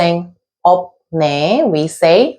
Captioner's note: pronouncing Korean